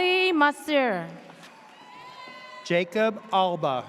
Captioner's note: audience cheers